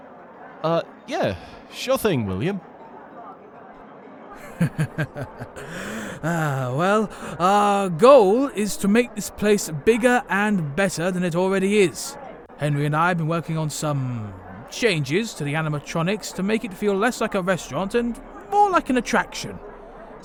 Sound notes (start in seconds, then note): 4.3 chuckles